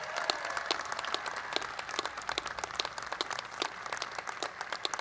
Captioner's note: applause